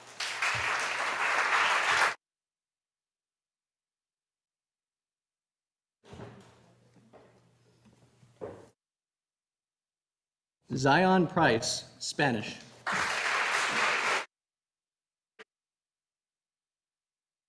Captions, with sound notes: (audience applauding) Zion Price, Spanish. (audience applauding)